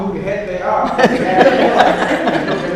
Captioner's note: audience laughs